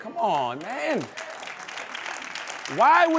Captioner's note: applause